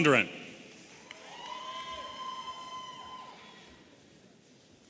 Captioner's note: audience cheering